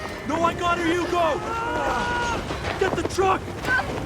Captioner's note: screaming